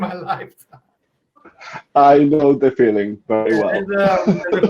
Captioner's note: laughing